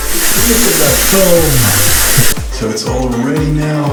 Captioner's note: water rushing over speaker's voice